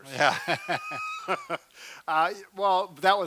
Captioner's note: laughs